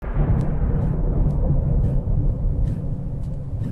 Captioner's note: wind blowing